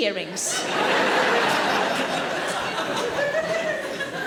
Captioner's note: audience laughing